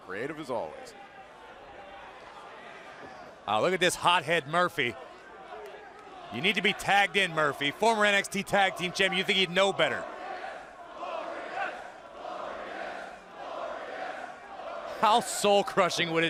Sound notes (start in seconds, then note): 11.0 fans chanting